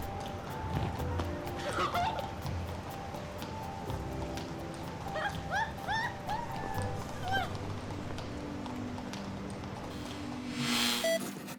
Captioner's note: laughter